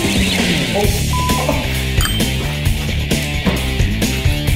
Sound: score dings; beep; rock music continues

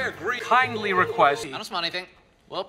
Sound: ABED is doing the alien noises that sound like a turkey gobbling

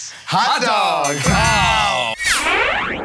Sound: ding!

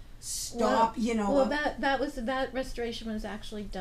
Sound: voiceover

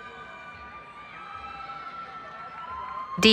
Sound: cheering

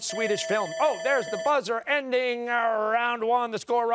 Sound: timer sounding

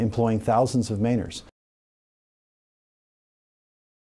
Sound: silence

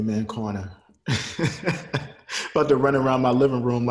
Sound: laughs

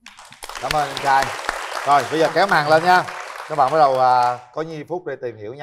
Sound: clap

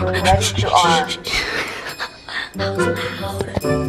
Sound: laughter

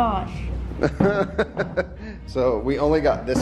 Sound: laughing

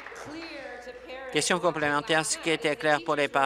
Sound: applause

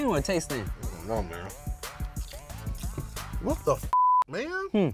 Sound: beep

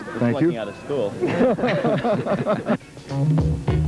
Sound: all laugh; upbeat music

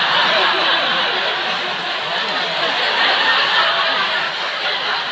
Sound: crowd laughs

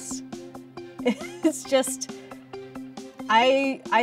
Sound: chuckles

